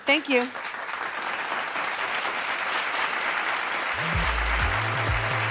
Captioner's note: audience applauding